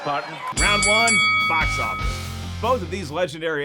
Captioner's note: bell dinging